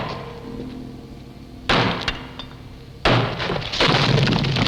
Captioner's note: thudding